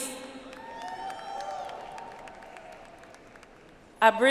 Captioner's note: audience applauds